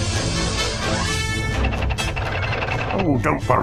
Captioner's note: makes Fasttrack sounds